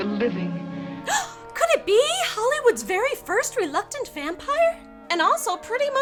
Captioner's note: gasp